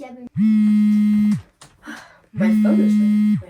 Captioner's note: phone Buzzing